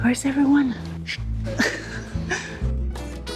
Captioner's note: laughing